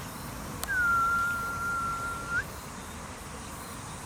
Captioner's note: whistle